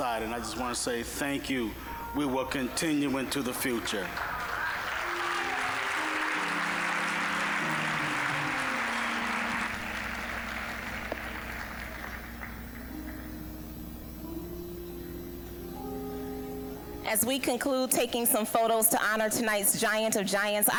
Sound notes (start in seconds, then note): 3.2 applause; 4.5 uplifting music; 12.6 soft uplifting music